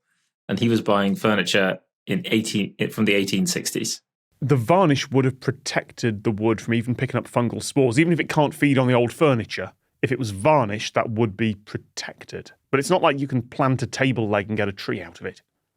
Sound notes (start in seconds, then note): none